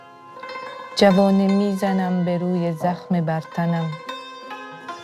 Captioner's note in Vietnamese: Tiếng Afghanistan